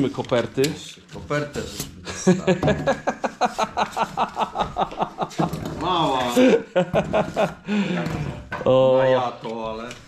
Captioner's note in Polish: śmiech